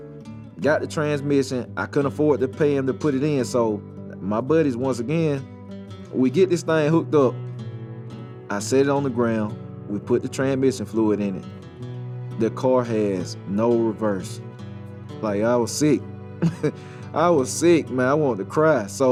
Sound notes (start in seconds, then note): 16.4 chuckles